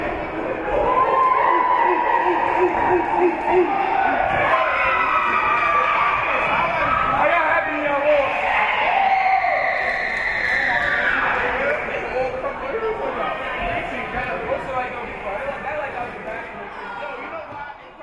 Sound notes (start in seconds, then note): 1.2 team chanting; 4.6 team cheering; 12.1 spectators chattering